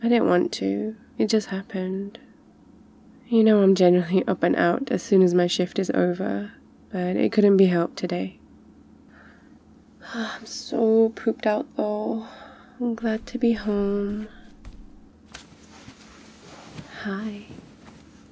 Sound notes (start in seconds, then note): 9.9 sighs; 13.0 footsteps